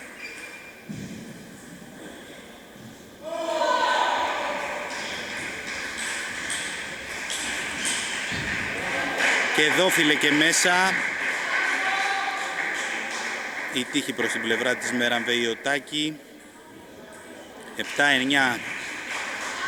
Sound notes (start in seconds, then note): 4.0 applause